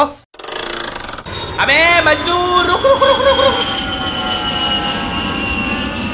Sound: plane sound

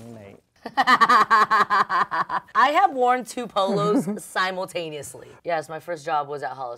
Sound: laughs

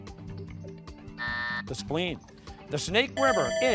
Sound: buzzer sounding

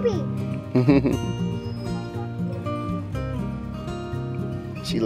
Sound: chuckles

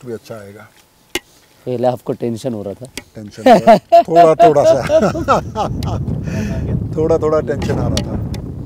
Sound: laugh

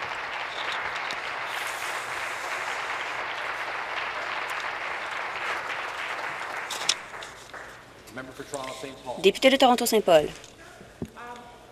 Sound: applause

